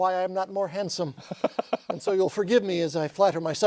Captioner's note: laughter